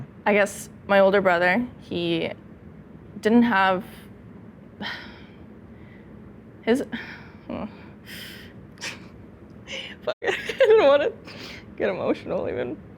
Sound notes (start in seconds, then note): 4.9 sighs